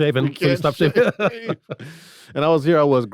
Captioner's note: everyone laughs